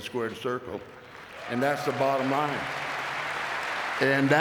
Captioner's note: audience clapping